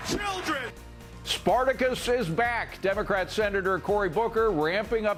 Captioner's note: applause; cheers and applause